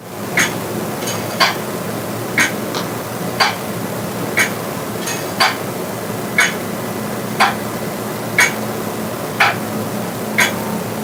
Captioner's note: clock ticking